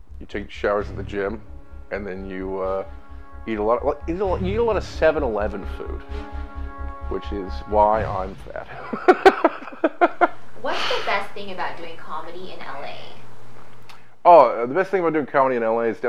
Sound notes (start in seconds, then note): 8.6 laughing